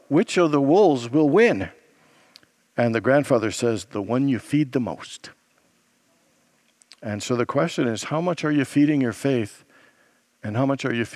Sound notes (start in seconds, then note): none